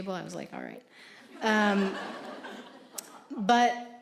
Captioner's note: audience laughing